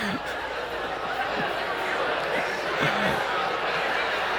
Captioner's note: audience talking